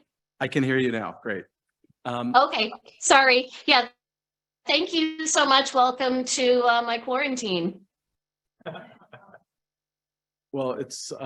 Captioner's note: laughter